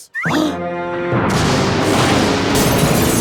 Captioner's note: gasps; lightning crashes and thunder rumbles